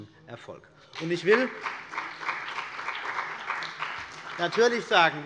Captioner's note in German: Beifall bei der CDU und dem BÜNDNIS 90/DIE GRÜNEN